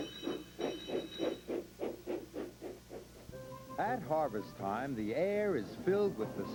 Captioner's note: squeaking and rattling begin